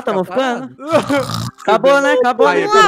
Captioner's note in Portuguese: rindo; roncando